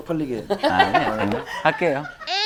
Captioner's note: laughing